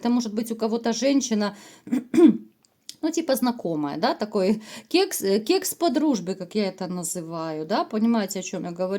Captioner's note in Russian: откашливается